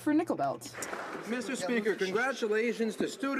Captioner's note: some Applause